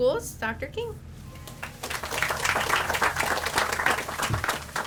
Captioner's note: audience applauds